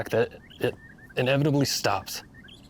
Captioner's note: none